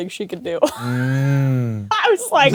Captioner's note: Kris wheezes